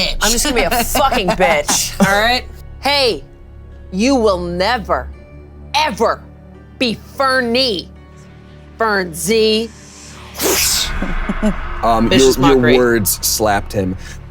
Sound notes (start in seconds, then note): 4.3 light thrilling music; 9.3 loud wind whooshing